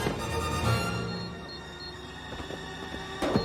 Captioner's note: beep beep beep beep; thud, beep beep beep beep